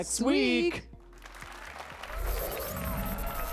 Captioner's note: applase and cheers